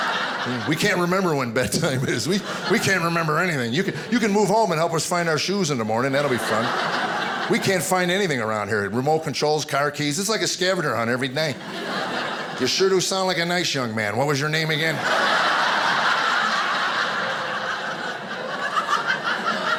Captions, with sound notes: We can't remember when bedtime is. We... We can't remember anything. You can, you can move home and help us find our shoes in the morning, that'll be fun. We can't find anything around here, remote controls, car keys—it's like a scavenger hunt every night. You sure do sound like a nice young man, what was your name again? (audience laughing)